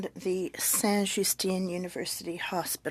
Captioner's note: speaking french